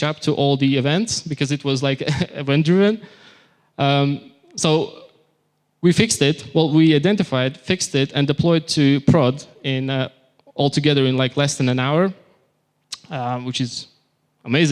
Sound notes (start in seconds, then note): none